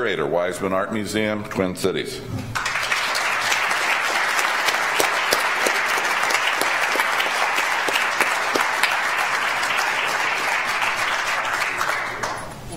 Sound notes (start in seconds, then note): 3.0 audience applauds